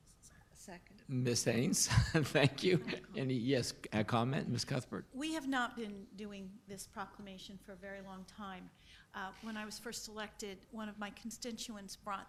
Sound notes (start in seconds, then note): 2.1 laughs